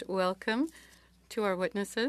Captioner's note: speaking French